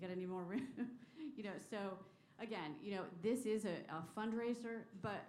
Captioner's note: laughter